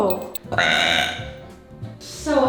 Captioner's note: burps